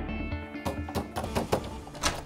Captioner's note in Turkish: Kapı Çalıyor